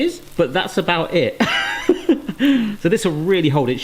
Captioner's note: laughs